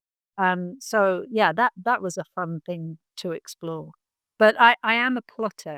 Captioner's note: none